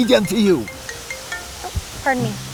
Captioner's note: cell phone ringing